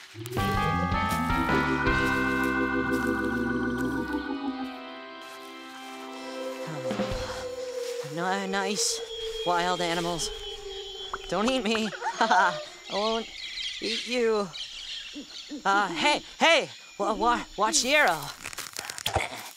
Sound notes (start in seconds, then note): 0.1 music finale; 6.4 sighs; 11.8 laughing sheepishly